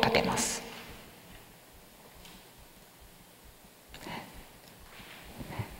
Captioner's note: silence